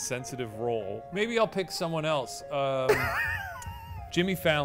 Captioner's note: laughing